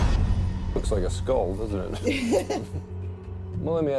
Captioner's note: laughs